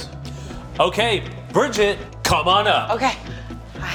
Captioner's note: gasping